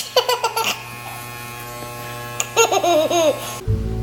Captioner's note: laughs